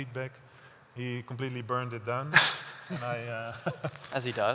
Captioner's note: laughter